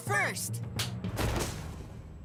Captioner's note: thudding